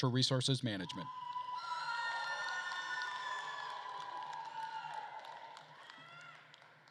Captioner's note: attendees cheering and applauding